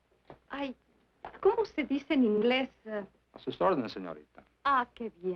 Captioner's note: speaking in foreign language